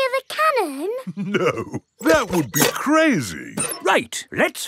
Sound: chuckling

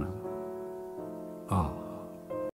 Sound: sigh

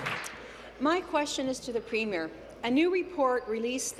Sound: applause

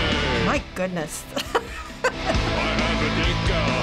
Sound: chuckles

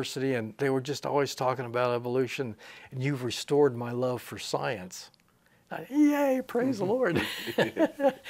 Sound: he laughs

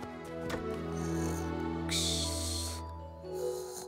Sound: snoring

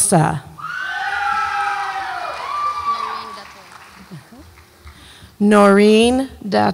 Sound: audience applauds and cheers

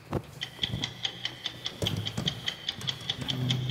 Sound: clock ticking

